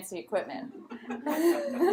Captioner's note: laughter